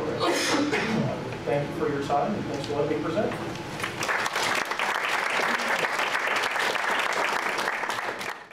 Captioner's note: clapping